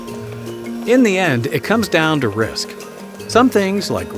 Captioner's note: voiceover